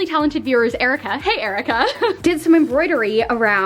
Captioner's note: laughs